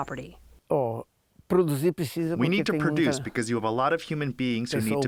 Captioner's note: through translator